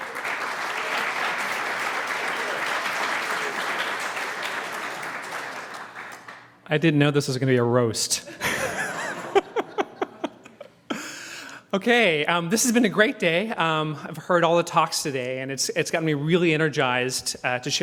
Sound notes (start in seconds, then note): 0.0 applause; 8.4 laugh